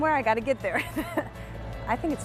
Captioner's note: laughs